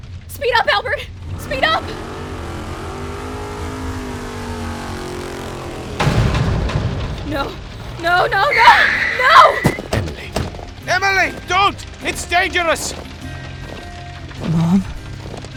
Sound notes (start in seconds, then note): 1.0 car engine roars; 6.0 intense music plays; 9.0 mansion blazes and wood crunches